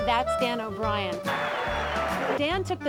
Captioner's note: crowd cheering